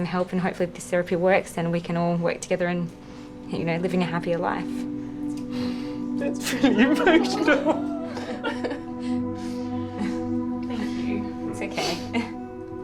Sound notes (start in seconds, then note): 5.8 sniffs; 6.4 laughs